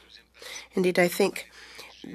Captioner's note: speaking French